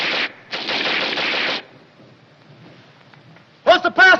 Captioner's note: gunfire stops